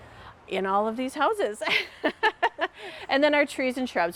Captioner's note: laughing